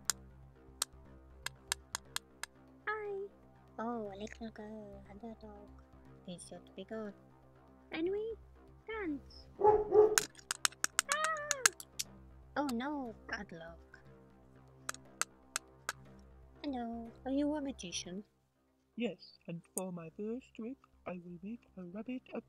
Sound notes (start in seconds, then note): 9.6 dog barks twice; 11.1 girl screams